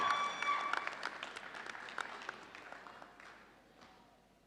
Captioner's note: audience cheering